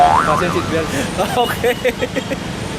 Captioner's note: laughs